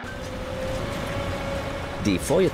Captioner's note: engine rumbling